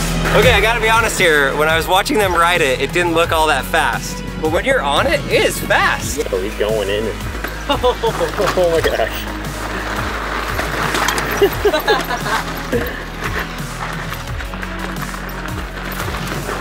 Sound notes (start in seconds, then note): 11.2 laugh